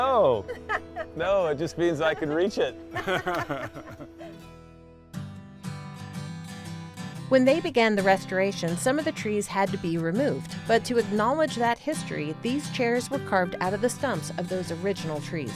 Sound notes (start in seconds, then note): 2.9 group chuckles